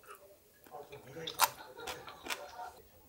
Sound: crunching

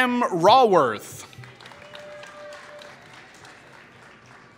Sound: applause

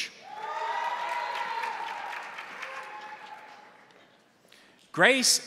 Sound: crowd cheering; crowd applauding

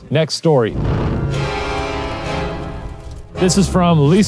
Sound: intense music; smoke whooshing

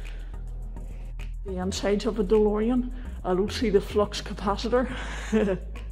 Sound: laughs

